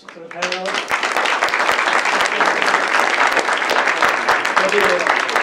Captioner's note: applause